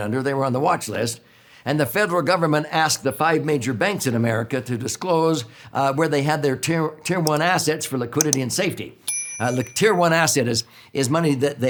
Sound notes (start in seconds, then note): 8.2 button clicks; 9.0 bell rings